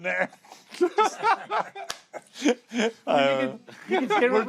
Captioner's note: laughter continues